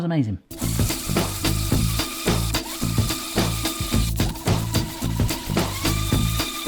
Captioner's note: whimsical music; whizzing